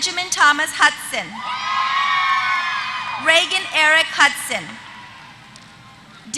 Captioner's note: applause